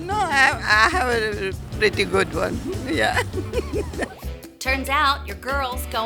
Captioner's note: laughing